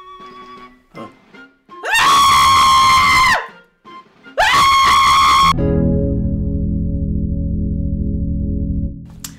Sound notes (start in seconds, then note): 1.7 terrified screaming